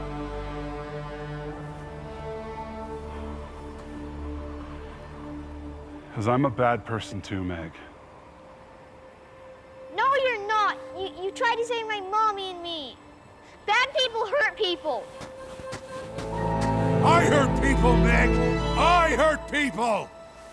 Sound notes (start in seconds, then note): 15.2 footsteps thudding